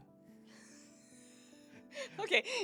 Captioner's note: laughing